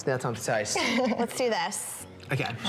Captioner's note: chuckles